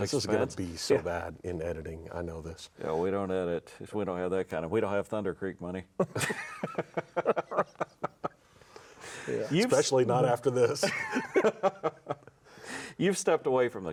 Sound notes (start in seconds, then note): 6.1 everyone laughs; 10.8 laughs